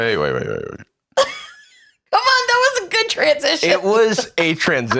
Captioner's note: laughs